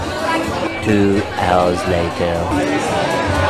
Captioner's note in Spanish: Voz en off